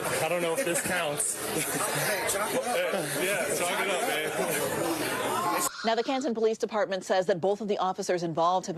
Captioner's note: laughter